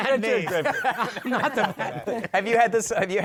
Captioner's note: laughter